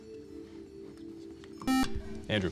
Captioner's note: buzzer